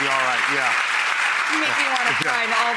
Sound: audience clapping

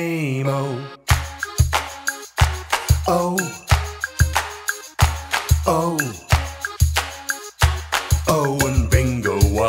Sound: clap

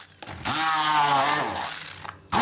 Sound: drilling whirring

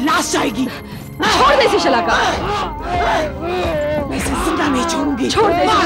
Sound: groans

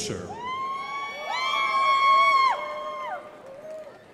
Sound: crowd applauding

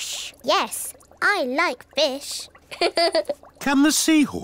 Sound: laughs

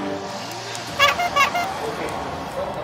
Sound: clap

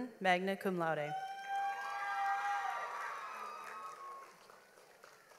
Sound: audience applauds

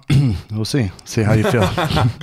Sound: laughs

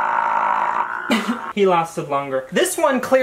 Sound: coughs

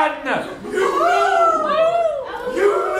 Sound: audience howling like wolves

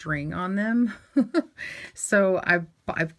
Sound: chuckling

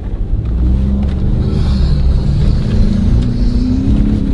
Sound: engine roars

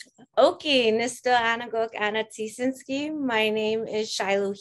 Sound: speaking siksika

